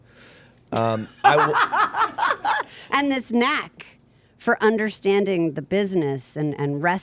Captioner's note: laughs